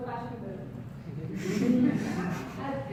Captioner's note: audience giggles